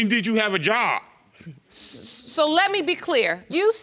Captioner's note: scoffs